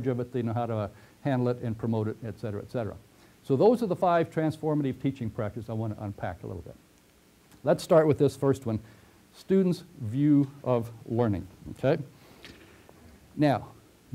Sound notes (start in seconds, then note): 12.2 pause